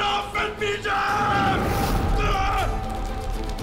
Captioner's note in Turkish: Bağırma sesi